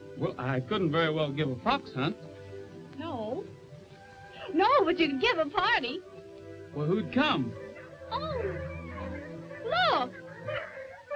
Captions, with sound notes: - Well, I couldn't very well give a fox hunt. - No. No, but you could give a party. - Well, who'd come? - Oh. (dogs barking) Look.